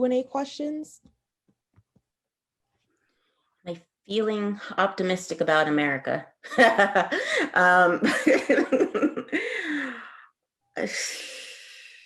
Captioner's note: laughter; sighing